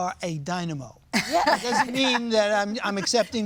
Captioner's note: laughing